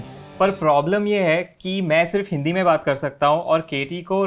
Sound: speaking in Hindi

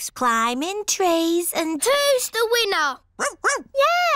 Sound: barks

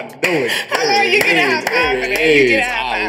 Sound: laughs; claps

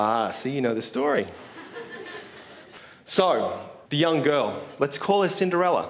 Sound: laugh

